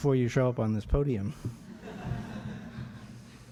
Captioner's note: light laughter